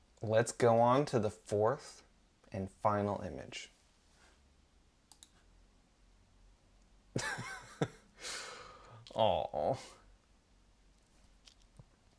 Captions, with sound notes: let's go on to the fourth and final image [laughs] aww